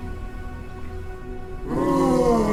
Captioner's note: wails